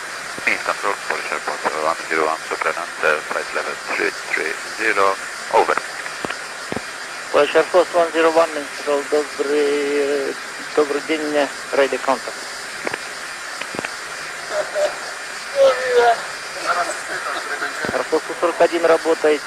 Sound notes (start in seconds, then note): 10.5 answering in Russian; 16.6 laugh